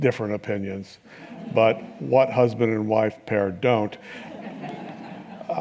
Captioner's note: laughter